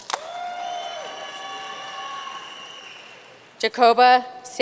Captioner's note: audience cheering and applauding